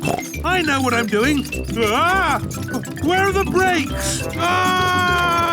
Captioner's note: scream